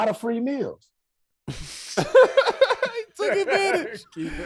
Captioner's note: hosts laughing